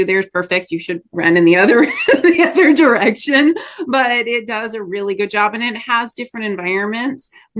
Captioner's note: laughs